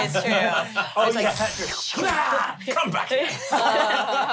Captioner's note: everyone laughs